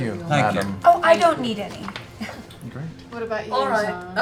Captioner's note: laughs